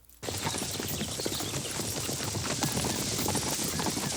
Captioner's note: hooves clop